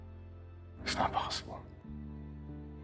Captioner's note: voiceover